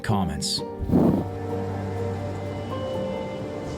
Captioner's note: torch flickers; gentle poignant music